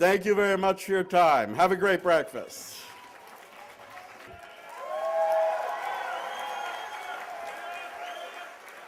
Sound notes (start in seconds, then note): 2.6 cheers and applause